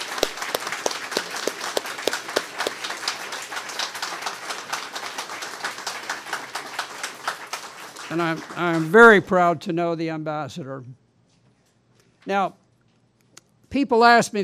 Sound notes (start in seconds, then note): 0.0 applause